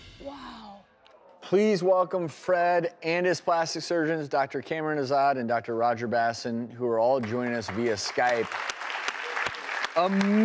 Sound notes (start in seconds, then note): 8.8 applause